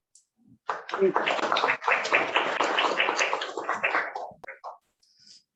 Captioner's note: applause